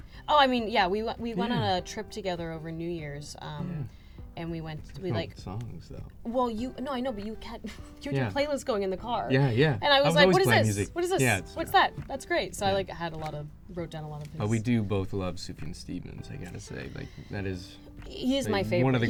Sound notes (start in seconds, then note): 7.9 laughs